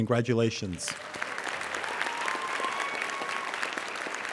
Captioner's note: applauding